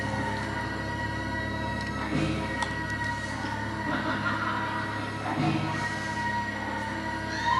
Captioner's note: laughter